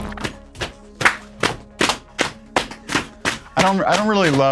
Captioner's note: slapping knees and clapping hands